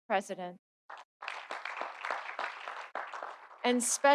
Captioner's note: audience applauding